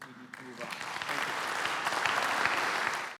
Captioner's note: applause